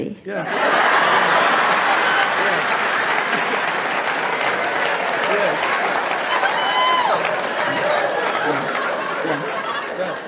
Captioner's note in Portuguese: Platéia ri